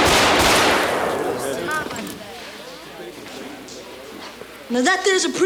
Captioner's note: gun fires rapidly; patrons murmur